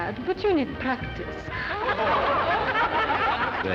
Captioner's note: women laugh